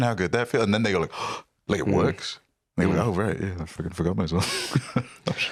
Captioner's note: gasps